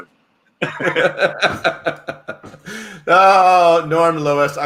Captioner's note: laughing